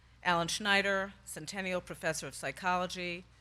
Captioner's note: none